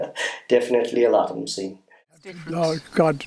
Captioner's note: laughter